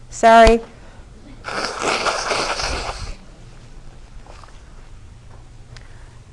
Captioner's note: blowing nose